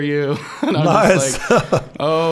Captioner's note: laughing